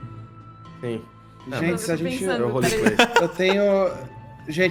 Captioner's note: laughs